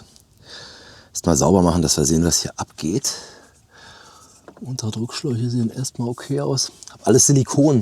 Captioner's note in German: seufzt